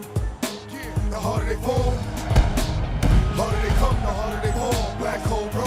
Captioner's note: punches landing